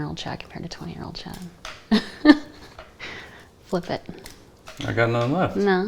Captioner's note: laughs